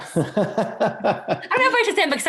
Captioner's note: laughing